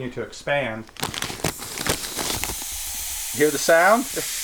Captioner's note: air hissing